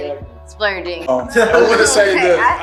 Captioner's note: chuckles